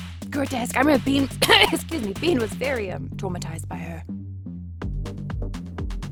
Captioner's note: coughs; club Music